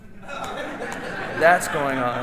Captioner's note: audience laughing